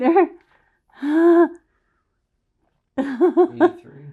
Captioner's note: laughing